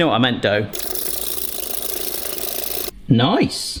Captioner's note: whisk beating speedily